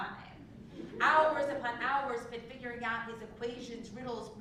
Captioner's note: laugh